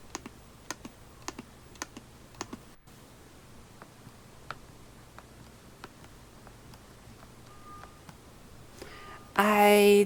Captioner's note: touchpad sounds